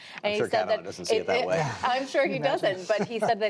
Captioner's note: laughter